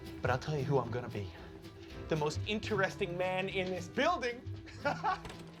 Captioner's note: laughs